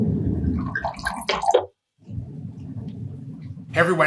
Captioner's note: wine pouring